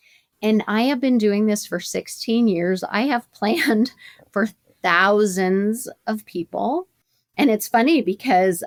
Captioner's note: chuckles